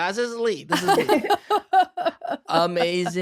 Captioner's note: laughing